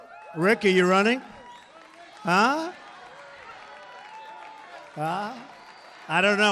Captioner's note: applause